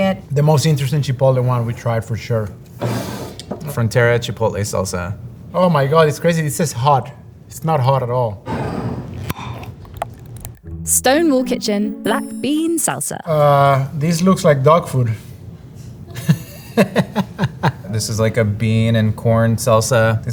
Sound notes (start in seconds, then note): 2.7 jar sliding; 8.6 jar sliding; 9.6 salsa pouring; 9.6 lid opening; 16.1 laughing